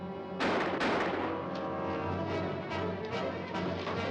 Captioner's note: gun firing